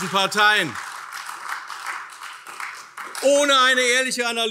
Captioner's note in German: Beifall